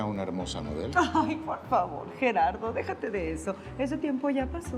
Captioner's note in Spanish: Risas